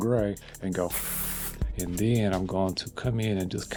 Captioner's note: blowing